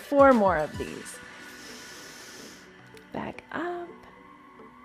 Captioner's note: inhales